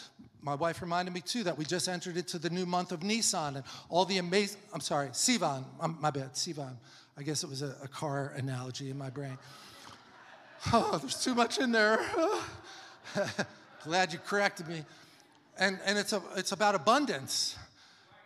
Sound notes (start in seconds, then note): 9.5 congregation laughs; 9.7 laughs